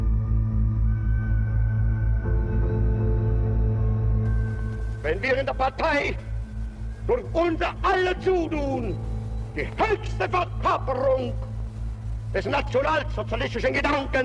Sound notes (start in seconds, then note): 0.1 light eerie music; 5.2 Hitler speaking German